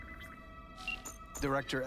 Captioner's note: beeping